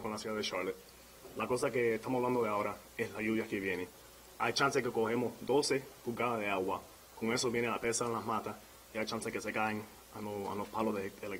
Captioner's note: speaking in spanish